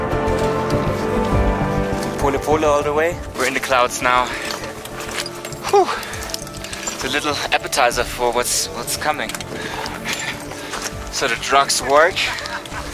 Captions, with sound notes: (speaks in foreign language) all the way. We're in the clouds now. It's a little appetizer for what's coming. The drugs work.